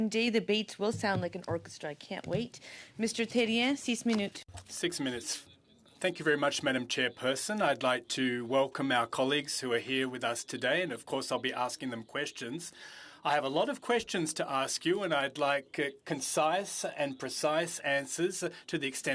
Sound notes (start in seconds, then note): 8.8 speaking French